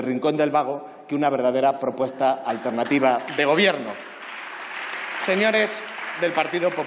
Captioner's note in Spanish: Aplausos